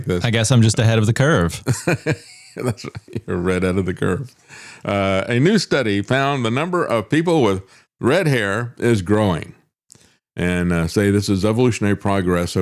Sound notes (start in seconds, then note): 1.6 laughing